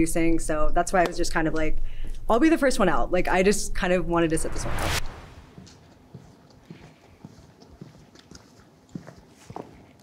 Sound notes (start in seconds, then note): 5.4 footsteps approaching